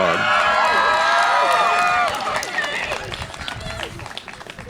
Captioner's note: audience cheers